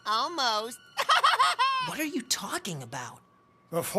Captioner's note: chuckles